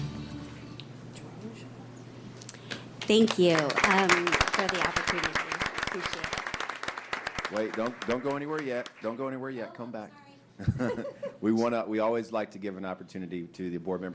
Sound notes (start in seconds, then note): 8.6 applause